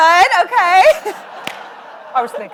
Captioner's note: audience laugh